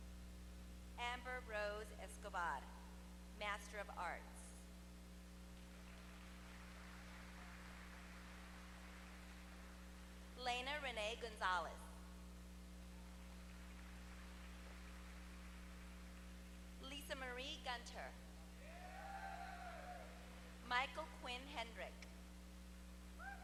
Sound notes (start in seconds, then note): 5.5 applause